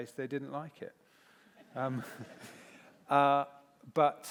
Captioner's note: laughter